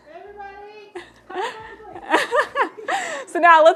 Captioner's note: laughter